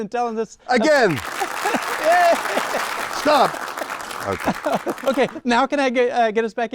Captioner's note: audience clapping